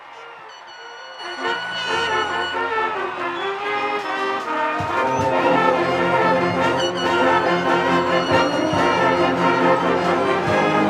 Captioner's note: cheers and applse